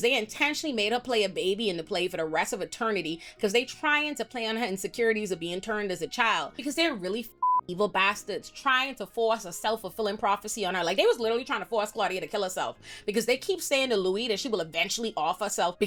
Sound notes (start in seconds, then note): 7.4 beep